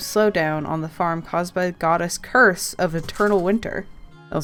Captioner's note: rattling in the background